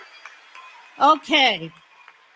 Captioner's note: cheering; applause